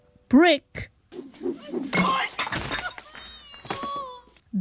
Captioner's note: yelps